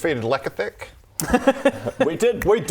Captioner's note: nice-try laughter